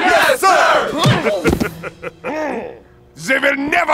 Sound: laughing

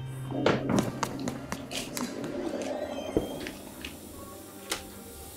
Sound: footsteps thudding on the floor

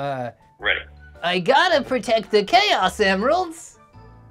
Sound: even worse high-pitched cartoon voice

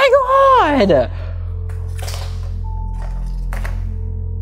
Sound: shells rattle

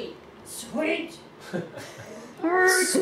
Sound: laughs

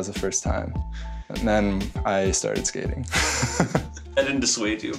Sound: laughs

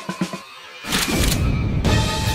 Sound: gun Cocks

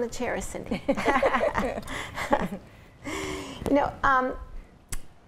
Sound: both laughing

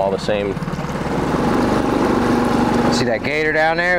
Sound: boat engine humming

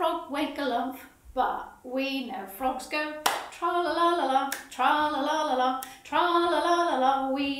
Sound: claps

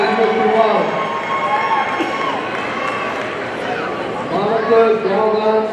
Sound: audience cheering

